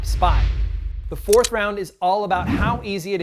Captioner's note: clicking